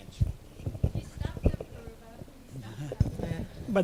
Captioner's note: speaking off mic